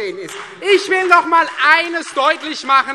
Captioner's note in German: Beifall Freie Demokraten